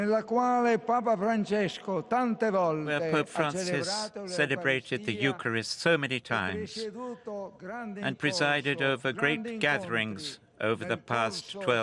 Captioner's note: speaking Alternate Language